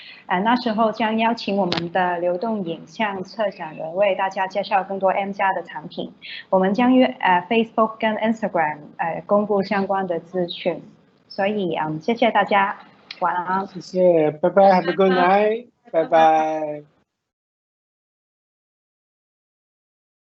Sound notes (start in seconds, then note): 14.1 Mandarin